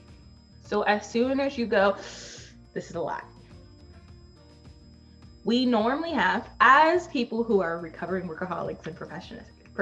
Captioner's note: inhales sharply